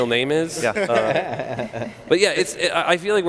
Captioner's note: laughing